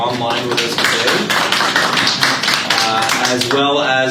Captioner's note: group applauds